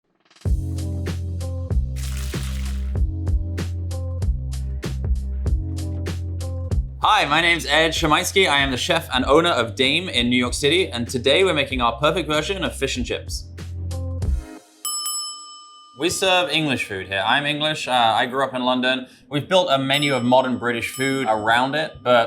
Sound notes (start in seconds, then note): 0.5 gentle instrumental music; 1.9 gentle music continues; 2.0 oil sloshes; 14.3 gentle music continues; 14.8 bell rings